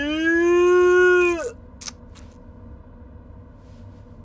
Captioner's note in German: Schmatzgeräusche